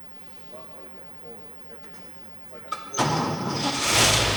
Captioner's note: car engine roaring